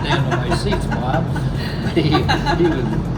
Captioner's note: laughing